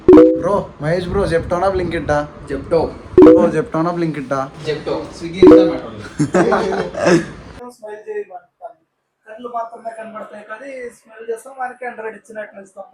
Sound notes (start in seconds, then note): 6.0 laughter